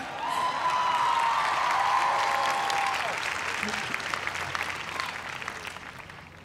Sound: cheers and applause

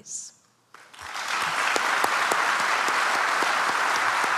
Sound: audience applauds

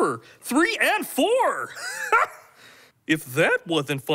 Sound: laughs

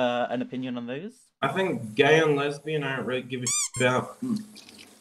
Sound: squeak

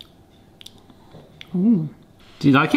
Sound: lips smack

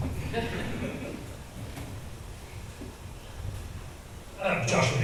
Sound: audience chuckles

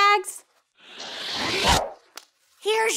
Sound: dramatic whooshing

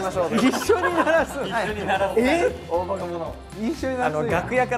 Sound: hahaha

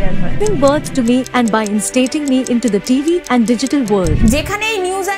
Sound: news Anchor Reading News

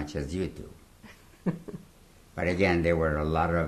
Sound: laughs

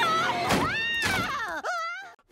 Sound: screaming

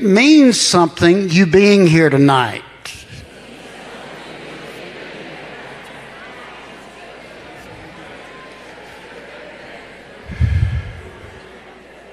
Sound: congregation murmurs

